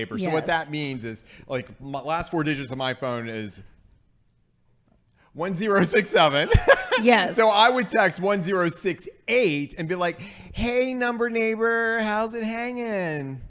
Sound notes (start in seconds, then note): 3.7 long pause; 6.4 laughing